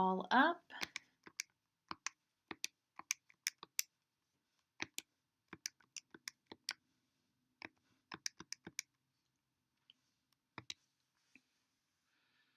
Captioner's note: clicking